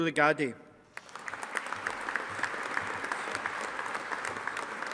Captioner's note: audience applauding